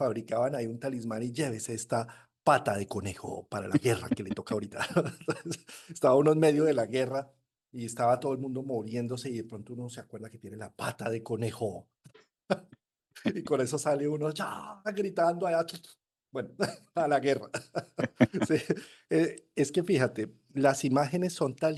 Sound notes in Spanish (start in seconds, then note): 3.7 risas; 17.3 risas